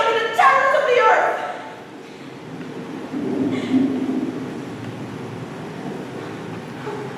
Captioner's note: thunder rumbles